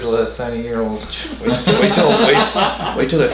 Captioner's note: others laugh